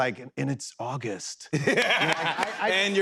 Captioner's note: laughter